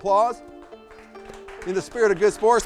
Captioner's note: applause